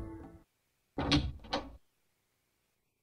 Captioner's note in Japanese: 扉を開く音：ガッチャン